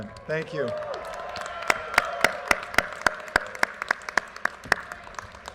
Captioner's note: audience cheers and applause